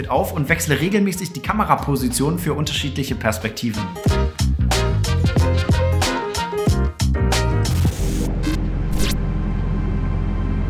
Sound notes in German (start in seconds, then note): 2.6 Fröhliche Musik; 8.4 Dramatische Musik; 8.8 glitching